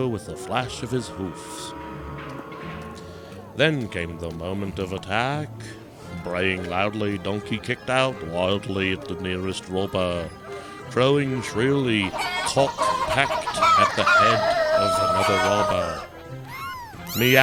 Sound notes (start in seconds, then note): 2.5 loud animal noises; 5.4 donkey braying; 9.7 chicken and rooster noises; 15.5 cats screaching